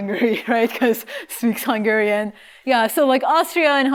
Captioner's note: laughter